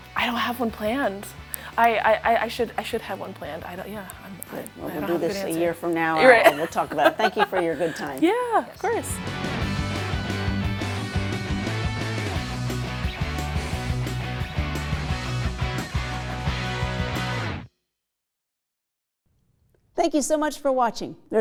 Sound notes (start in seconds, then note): 6.2 laughs; 8.8 upbeat rock music